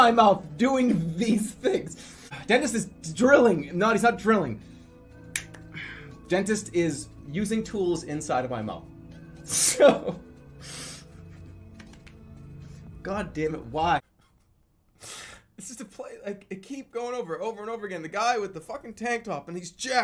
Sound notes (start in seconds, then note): 0.0 laughing; 9.3 laughing; 15.0 sniffles